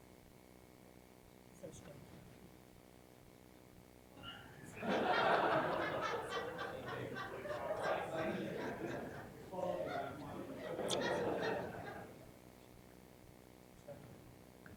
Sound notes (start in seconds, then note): 3.1 applause; 4.2 laughter; 4.2 mixed voices